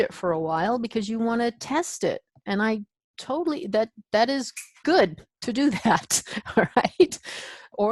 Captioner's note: chuckle